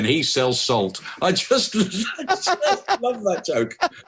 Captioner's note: laughing